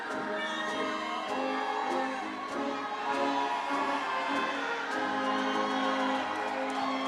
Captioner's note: audience cheering; upbeat ceremonial music